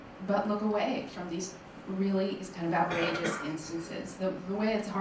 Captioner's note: cough drowns out speaker